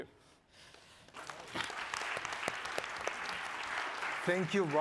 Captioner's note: audience applauding